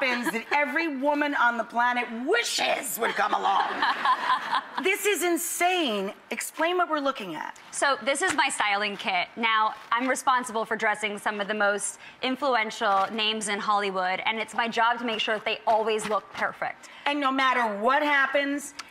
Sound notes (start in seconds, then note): 3.0 laughing